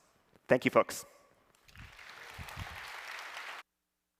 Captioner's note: applause